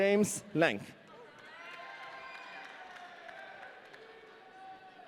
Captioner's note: audience cheering